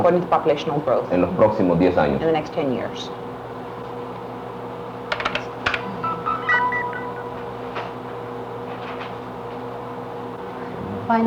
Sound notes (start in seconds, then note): 5.1 keyboard clacking; 5.7 Electronic audio effects